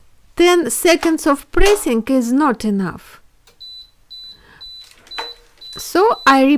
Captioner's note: beeping sound